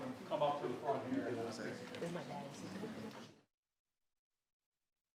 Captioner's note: people chattering